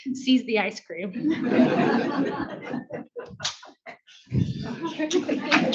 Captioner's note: audience laughs